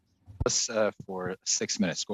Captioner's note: speaking French